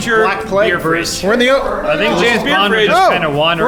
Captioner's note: shouting